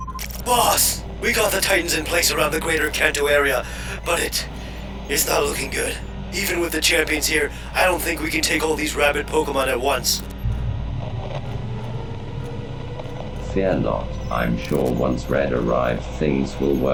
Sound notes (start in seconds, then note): 0.2 male voice, digitized; 10.0 Robotic voice